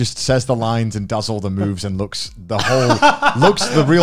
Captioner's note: laughs